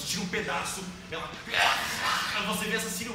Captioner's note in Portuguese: grunhido